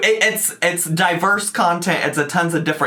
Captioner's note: none